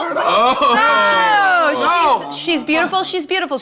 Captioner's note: everyone shouts